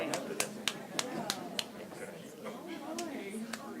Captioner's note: clapping